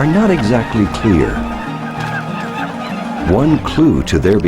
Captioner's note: birds chirping